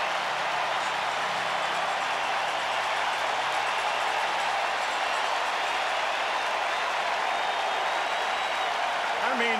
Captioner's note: applause; cheering and Applause